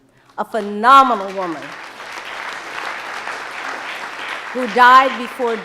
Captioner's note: audience applauding